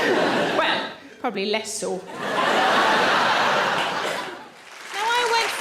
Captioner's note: audience laughs